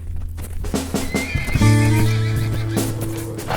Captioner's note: horse neighs